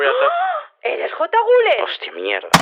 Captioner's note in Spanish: gasp